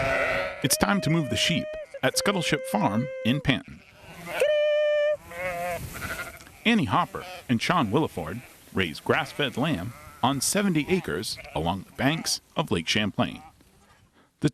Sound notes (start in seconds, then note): 0.0 sheep bleating; 4.1 exclaiming